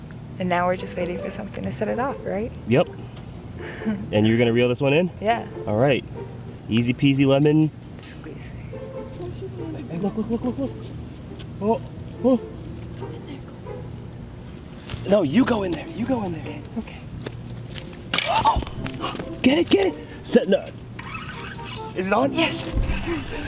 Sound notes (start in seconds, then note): 17.8 gasps; 22.0 whispers